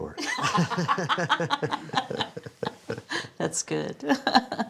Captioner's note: laughs